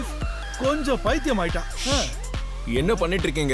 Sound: shushing

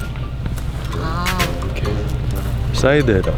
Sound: egg crack

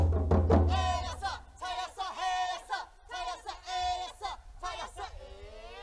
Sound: shouting in foreign language

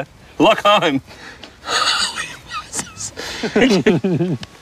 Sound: laughing

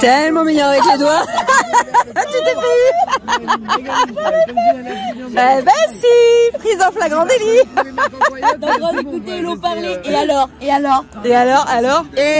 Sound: laughs

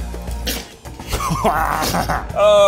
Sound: bottle squirting; laughing

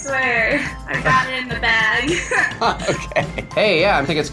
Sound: laughs

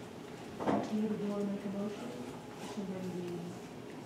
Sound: faint chatter

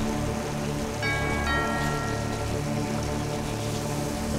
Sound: doorbell

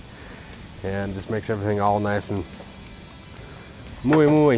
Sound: speaks Spanish

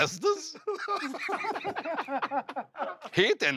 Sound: laughter

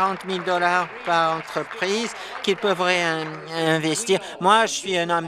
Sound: applause

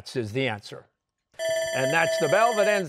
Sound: bell ringing

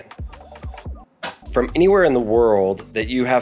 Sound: switch clicking

